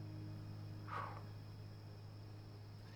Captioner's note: exhales